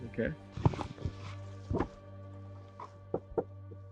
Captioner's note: footsteps; knocking